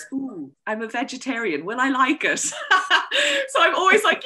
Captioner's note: laughs